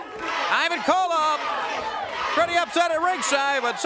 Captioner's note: crowd cheering